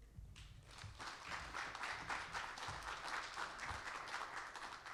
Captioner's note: audience applauding